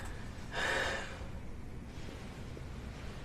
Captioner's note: sighs